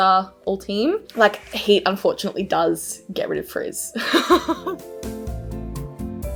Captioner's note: laughs; smooth mellow music